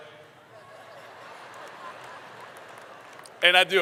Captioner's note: laughter